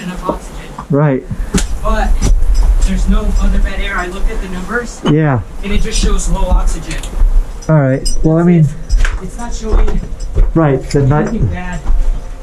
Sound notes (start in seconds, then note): 1.4 something snaps; 2.0 something clatters